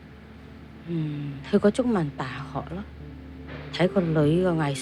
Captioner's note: Cantonese